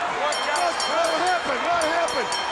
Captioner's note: bell ringing